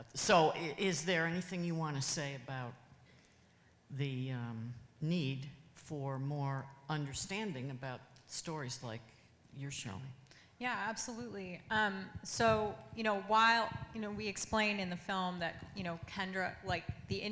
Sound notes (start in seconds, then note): none